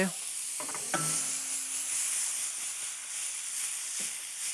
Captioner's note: sizzling